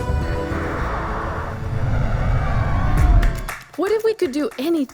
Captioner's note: rocket engines roaring